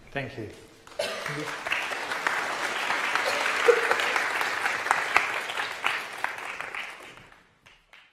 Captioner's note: applause